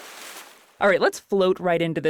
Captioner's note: splash noise